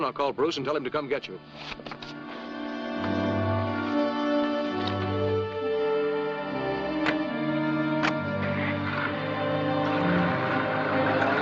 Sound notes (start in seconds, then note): 7.4 car engine starting